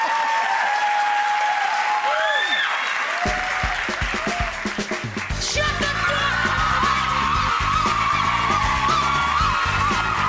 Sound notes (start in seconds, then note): 0.1 audience applause; 2.3 audience member screams; 6.5 audience cheering